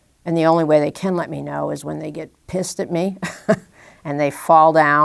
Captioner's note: chuckle